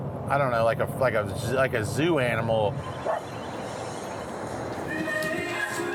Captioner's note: dog barking; upbeat music